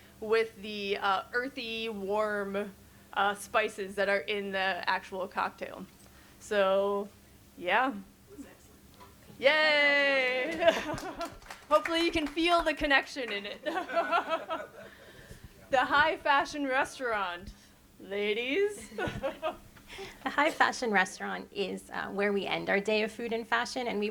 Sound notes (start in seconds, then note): 10.3 audience applauds; 10.4 panelists chcukle; 13.6 all chuckle; 19.1 chuckles